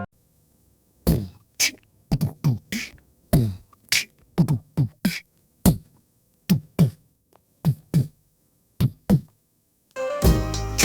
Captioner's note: beatboxing